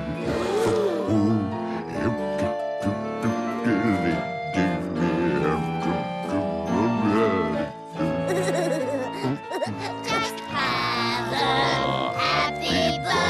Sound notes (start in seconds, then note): 0.2 humming; 8.2 giggles